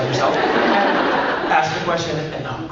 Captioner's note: crowd laughs